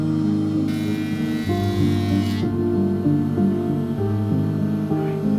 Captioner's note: belt sanding wood